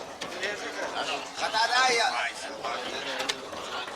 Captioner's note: men speaking aramaic